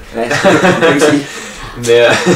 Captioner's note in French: rires